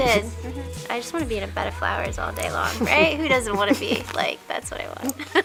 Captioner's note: laughter